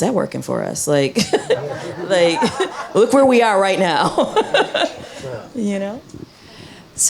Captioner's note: chuckles